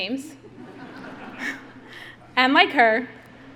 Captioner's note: audience laughing